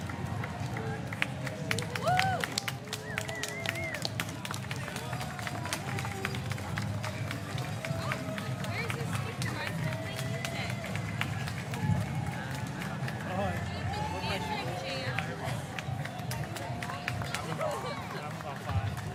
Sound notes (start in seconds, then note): 7.0 applause